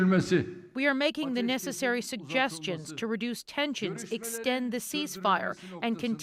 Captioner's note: speaking alternate language